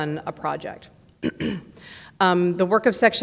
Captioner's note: clearing throat